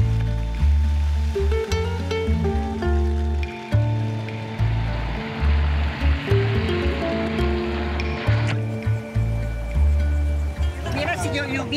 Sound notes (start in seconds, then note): 6.1 engine rumbling; 6.1 gentle music; 11.2 speaking in foreign language